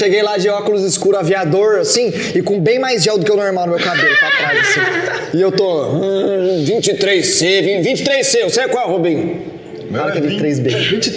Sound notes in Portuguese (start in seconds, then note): 3.7 risos